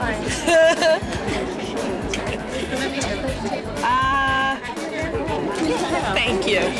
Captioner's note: laughs